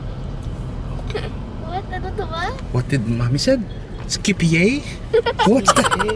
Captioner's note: snickering